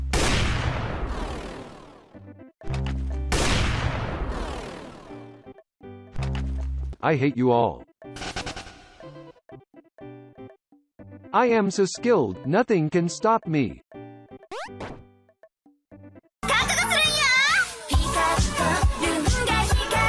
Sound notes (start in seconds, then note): 0.0 sniper shot; 3.3 sniper shot again